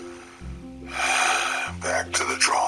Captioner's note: sighs